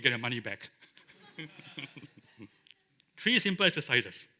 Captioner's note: laughter